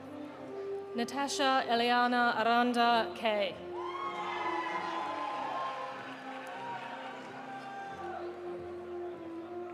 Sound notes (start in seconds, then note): 3.8 audience cheering; 4.2 audience applauding